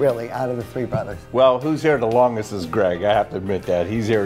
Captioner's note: voiceover